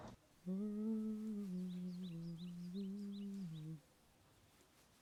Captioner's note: humming